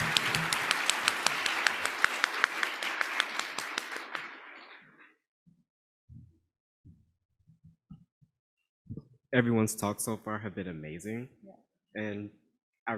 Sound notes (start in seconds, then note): 5.1 applause